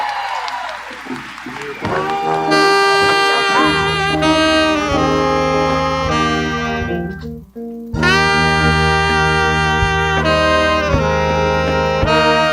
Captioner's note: applause; cheering